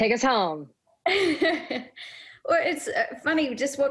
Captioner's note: laughing